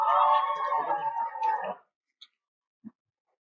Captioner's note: cheering